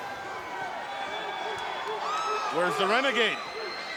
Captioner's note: crowd shouting